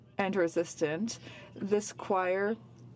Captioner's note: speaking French